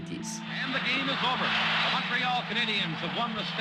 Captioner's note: soundbite of archived recording